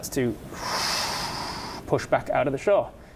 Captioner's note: wooosh